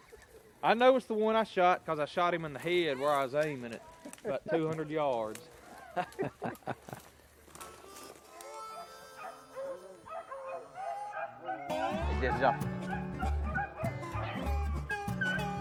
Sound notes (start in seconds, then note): 5.7 laughs; 11.6 slide guitar